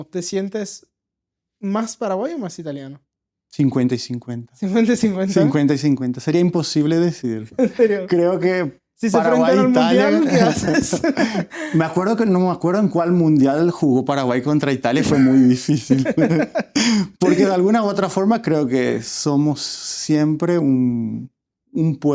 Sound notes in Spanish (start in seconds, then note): 10.2 risas